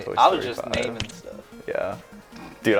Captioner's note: tomato splats